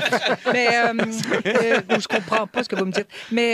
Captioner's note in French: rires